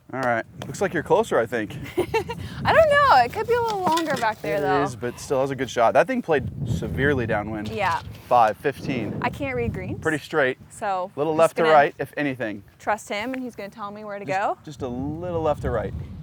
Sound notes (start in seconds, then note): 4.6 laughs